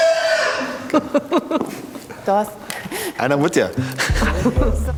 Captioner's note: loud neighing; laughing